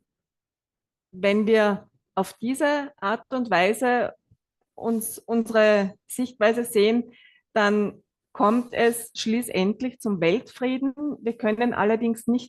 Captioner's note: German live translation